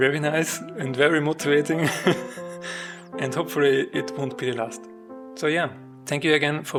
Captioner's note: laughs